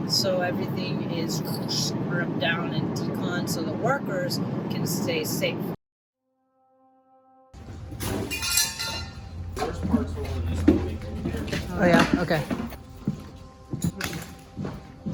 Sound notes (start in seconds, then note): 7.6 metal clanging